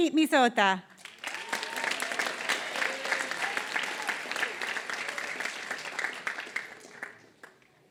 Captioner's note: applause